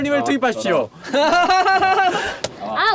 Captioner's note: laughter